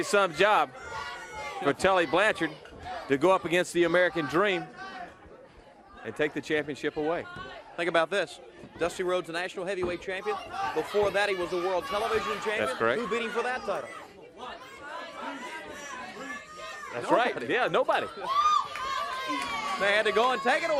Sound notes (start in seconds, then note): 16.2 crowd chatter